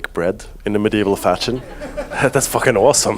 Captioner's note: audience continues laughing; audience laughs